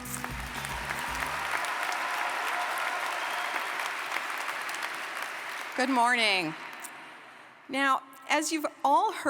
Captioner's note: applause